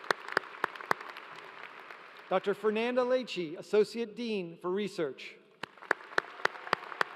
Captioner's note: applause